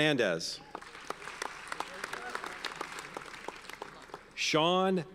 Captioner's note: audience applauds